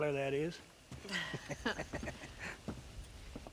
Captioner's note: laughs